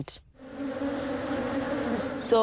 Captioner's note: buzzing